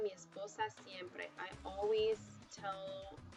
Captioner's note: speaking spanish